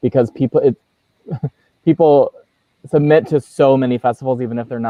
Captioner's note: chuckles